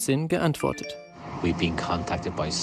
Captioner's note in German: englisch